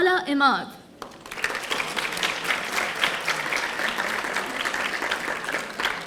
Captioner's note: audience applauding